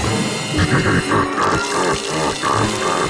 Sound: evil laugh

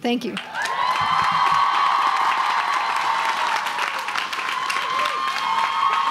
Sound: crowd cheering and applauding

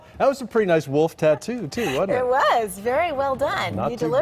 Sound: laughter

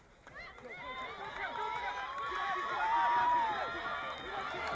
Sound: crowd cheering

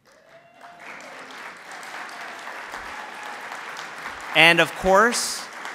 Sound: applause

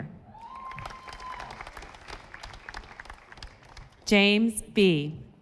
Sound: audience applauding

